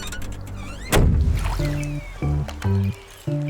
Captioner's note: trunk slamming shut